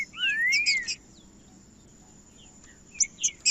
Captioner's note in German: trinca ferro cantando